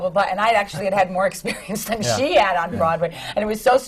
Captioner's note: laughs